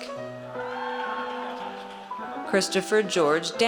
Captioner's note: audience cheers